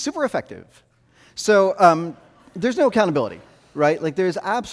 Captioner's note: audience laughing